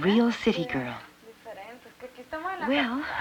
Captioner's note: speaking Spanish